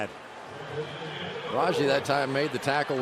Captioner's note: pa announcement